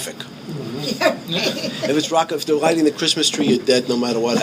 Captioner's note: laughing